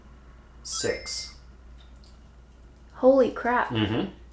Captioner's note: chimes tinkling